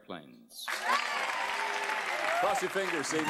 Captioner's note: cheers and applause